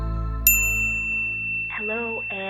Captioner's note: bell rings